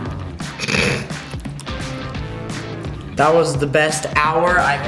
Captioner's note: laughs